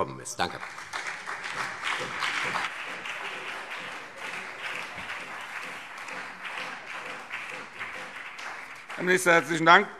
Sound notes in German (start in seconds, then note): 0.3 Beifall CDU, BÜNDNIS 90/DIE GRÜNEN, vereinzelt SPD und Freie Demokraten